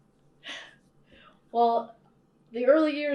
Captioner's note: laughs